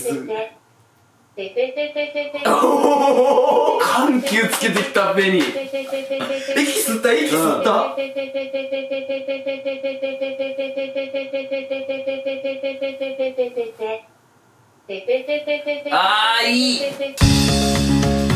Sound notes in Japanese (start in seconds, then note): 14.3 沈黙